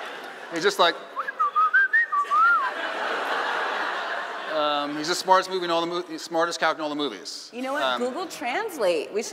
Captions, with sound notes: it's just that (whistling and laughing) he's the smartest character in all the movies. - You know, Google Translate,